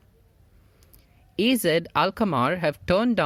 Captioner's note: L'Equipe - in French